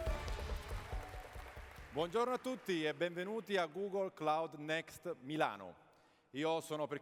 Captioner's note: speaking italian